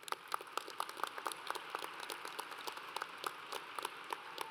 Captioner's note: audience applauds